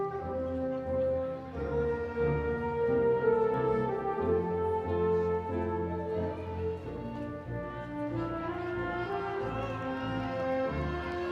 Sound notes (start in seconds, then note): 6.2 audience cheering